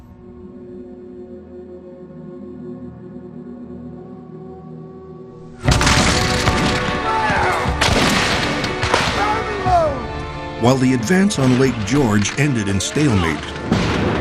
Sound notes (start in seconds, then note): 0.6 solemn music; 5.6 guns banging